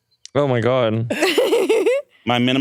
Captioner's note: laughs